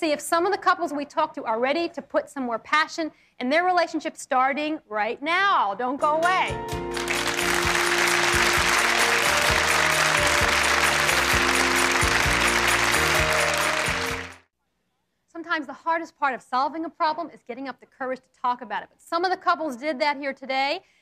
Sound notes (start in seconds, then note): 6.0 inspirational music; 6.8 audience applauds